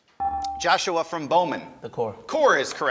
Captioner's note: ding